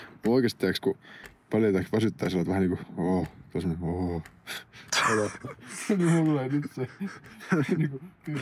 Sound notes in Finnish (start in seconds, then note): 5.0 hämmentynyt naurahdus